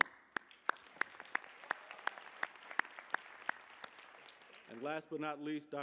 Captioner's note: applause